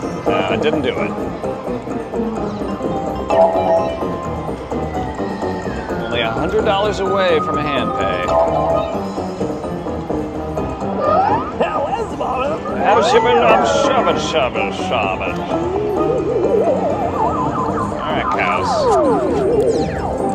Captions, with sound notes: It didn't do it Only $100 away from a handpay [drunken mumbling] Alright cows...